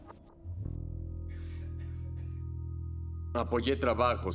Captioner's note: ominous music; beeps